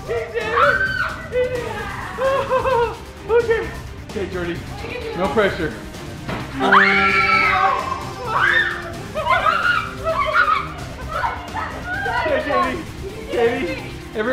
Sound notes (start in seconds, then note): 0.0 screaming; 6.6 screaming; 6.7 victory music